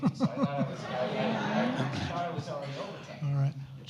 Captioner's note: overlapping chatter